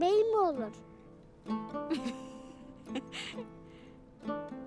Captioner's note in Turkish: Gülme sesi